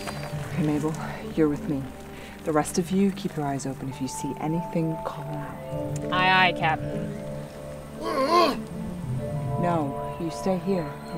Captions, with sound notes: Ok, Maybel, you're with me. The rest of you, keep your eyes open, if you see anything, call out Aye aye Captain. *V’Rugga Grunts* No, you stay here.